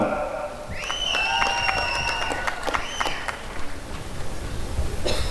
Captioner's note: applause and cheering